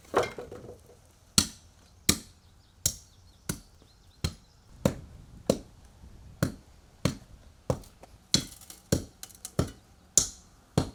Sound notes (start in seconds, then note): 0.0 wood thumping; 2.7 tamper pounding